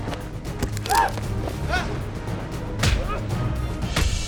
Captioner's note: yelping; blows thud